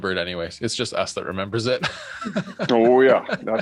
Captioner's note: laughs